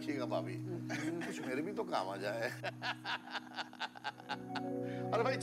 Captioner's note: Laughing